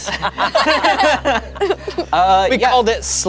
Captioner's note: group laughs